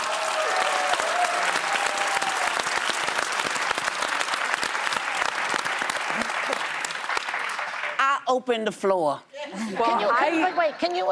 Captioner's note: cheers and applause